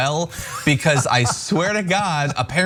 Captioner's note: laugh